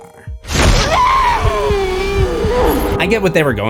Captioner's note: screams